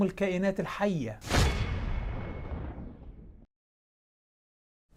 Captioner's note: sound effect